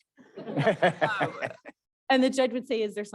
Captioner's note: all laughing